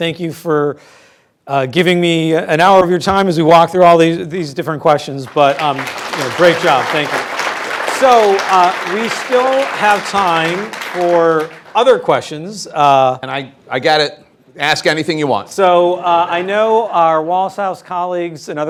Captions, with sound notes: Thank you for giving me an hour of your time as we walk through all these different questions. But, you know, great job. Thank you. (audience clapping) We still have time for other questions. - And I get it. Ask anything you want. - So I know our Wallace House colleagues